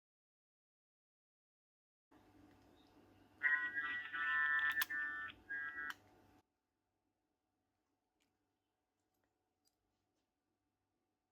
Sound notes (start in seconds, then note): 3.4 hearing aids buzzing; 6.0 hearing aids stop